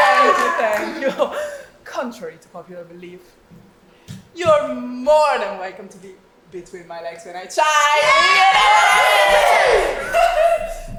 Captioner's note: audience cheers; audience cheers